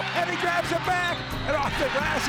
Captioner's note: crowd cheering